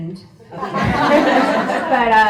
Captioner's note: audience laughs